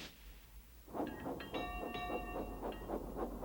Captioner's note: clang clang